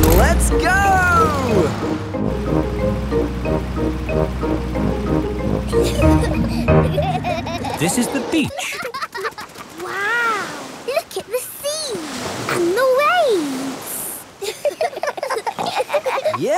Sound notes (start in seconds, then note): 5.6 children giggling; 14.4 giggling